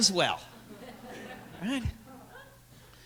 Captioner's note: laughter